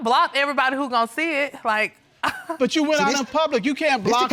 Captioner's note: laughs